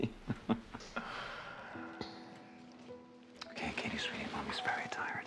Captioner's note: Frank laughing